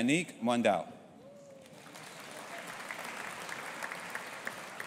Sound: audience applauding

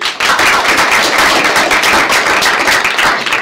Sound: applause

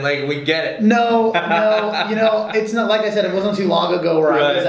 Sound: laughing

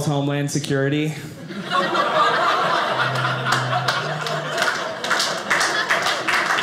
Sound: audience laughing; audience applauding

